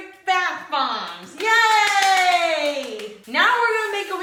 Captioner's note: applauding